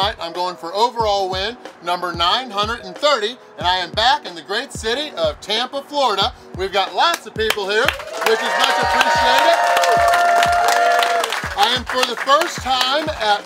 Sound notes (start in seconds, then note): 9.7 cheering & Clapping